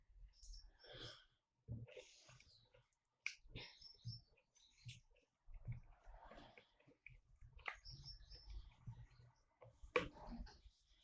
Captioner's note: stirring and pouring